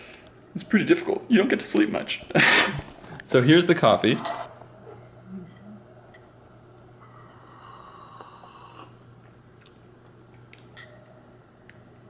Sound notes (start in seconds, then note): 8.0 siiiiip